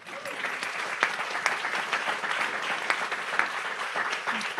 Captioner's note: audience applauds